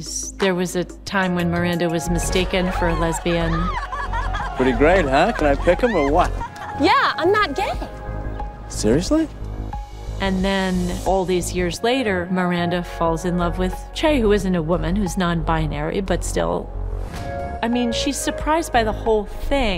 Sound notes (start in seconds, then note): 2.2 cheering, laughing